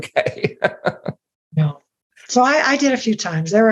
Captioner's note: laughing